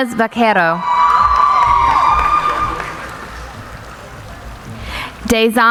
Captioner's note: cheering